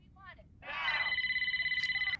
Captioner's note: phone Rings